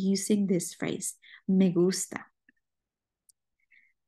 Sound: speaking spanish

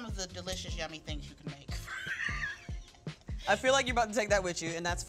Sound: laughs

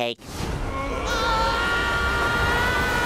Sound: screaming

